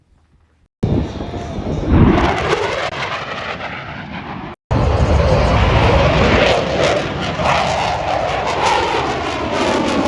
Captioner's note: airplanes flying